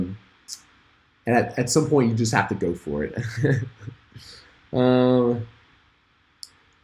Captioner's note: chuckles